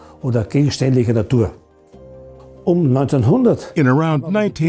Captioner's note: non-english speech